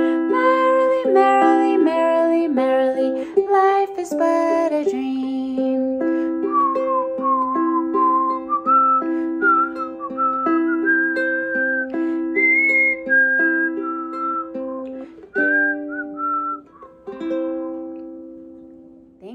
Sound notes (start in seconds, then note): 6.0 whistling